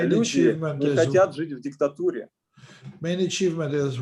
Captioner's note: speaking Russian language